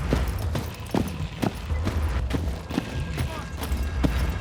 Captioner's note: feet marching